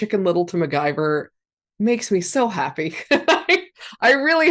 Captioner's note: laughs